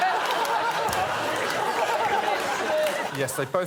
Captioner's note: laughter